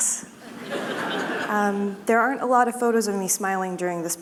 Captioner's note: laughter